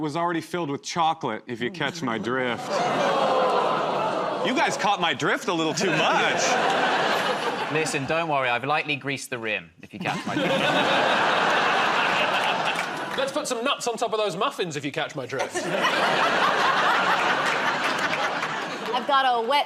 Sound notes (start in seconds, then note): 1.8 audience groans; 11.6 laughter; 15.4 laughter